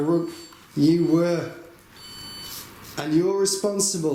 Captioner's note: device beeps